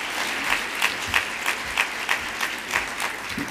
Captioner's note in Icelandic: fagnaðarlæti